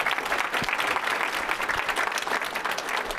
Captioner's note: applause